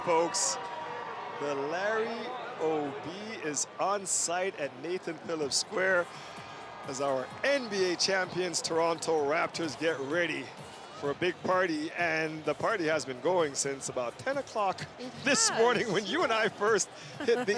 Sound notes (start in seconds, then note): 4.7 cheering